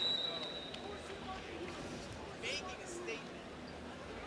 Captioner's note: whistle blows